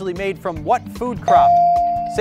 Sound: bell dings

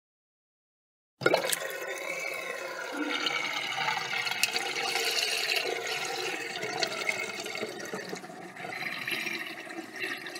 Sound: sound of sink drain

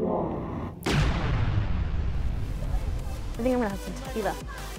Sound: explosion

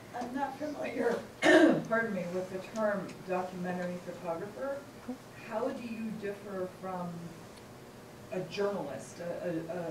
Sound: clears throat

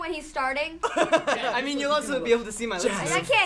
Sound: laughs

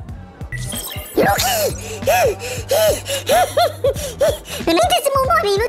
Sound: heavy breathing

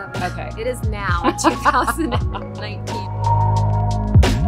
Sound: laughs

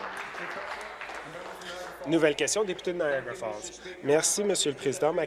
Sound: applause

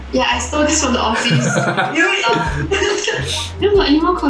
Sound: laughs

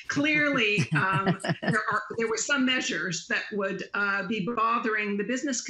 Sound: laughter

